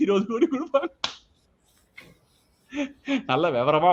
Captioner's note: laughs